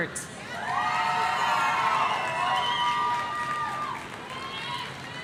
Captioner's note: audience cheering